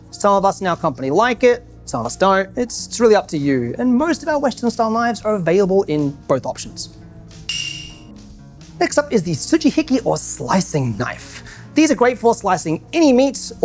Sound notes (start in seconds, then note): 7.5 bell dings